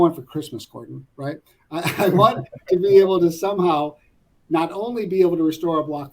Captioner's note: laugh